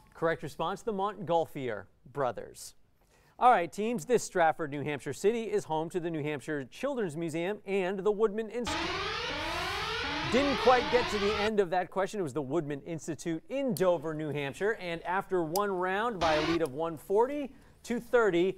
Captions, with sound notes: Correct response, the Montgolfier brothers. All right teams, this Strafford New Hampshire city is home to the New Hampshire Children's Museum and the Woodman-- [sirens] Didn't quite get to the end of that question, it was the Woodman Institute in Dover, New Hampshire. And after one round, by a lead of 140 to 30,